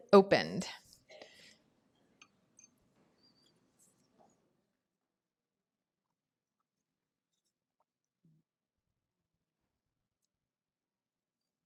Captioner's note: pause